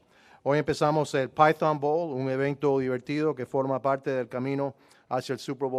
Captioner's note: speaking foreign language